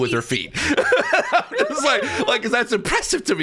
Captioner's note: all laughing